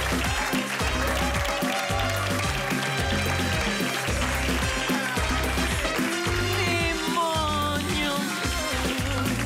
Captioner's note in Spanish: Exclamaciones